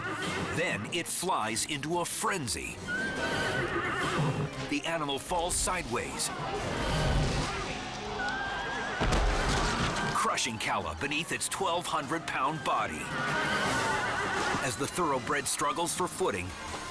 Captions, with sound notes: Then it flies into a frenzy. (horse neighs) The animal falls sideways, (horse thuds) crushing Calla beneath its 1,200 pound body. As the thoroughbred struggles for footing,